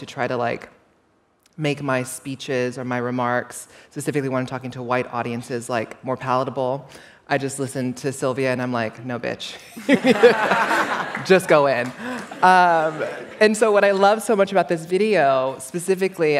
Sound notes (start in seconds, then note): 9.6 laughter